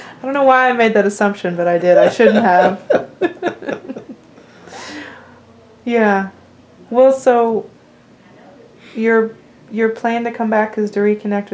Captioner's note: laughter